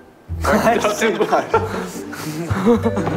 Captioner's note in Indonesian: Tertawa